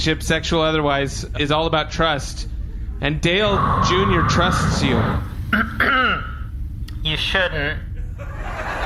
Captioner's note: coughs nervously